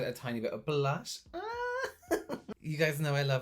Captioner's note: laughing